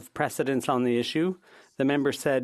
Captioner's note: speaking French